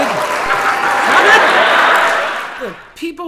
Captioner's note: wild cheers and applause